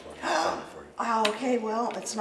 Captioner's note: gasps